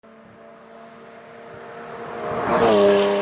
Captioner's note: car speeding